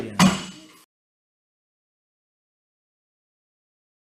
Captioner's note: gavel clacks